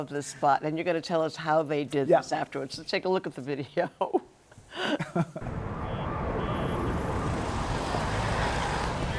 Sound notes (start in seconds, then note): 4.7 both laugh; 5.4 siren wailing